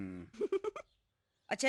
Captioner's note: chuckling